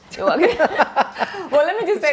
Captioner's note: laughs